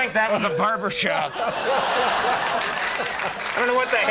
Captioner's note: audience laughing